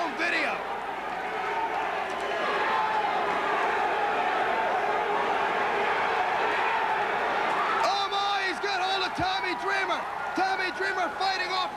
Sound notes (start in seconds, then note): 1.9 crowd chatter